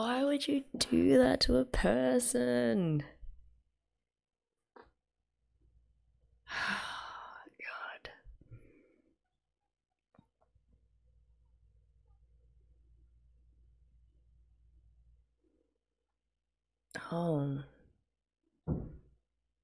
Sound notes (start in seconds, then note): 6.3 whispers